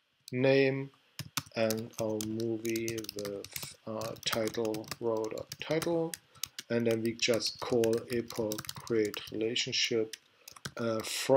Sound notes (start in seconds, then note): 4.7 typing